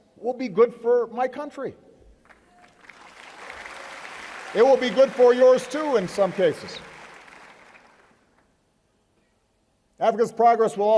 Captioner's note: applause